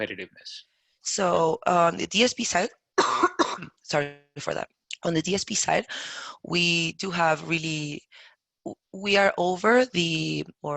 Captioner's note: coughs